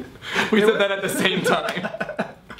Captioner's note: laughs